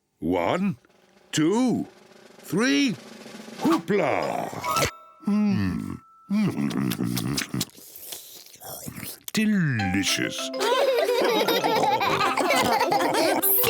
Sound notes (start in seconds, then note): 6.4 slurps; 10.5 all laughing